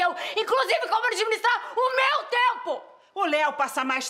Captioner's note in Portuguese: none